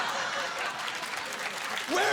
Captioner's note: applause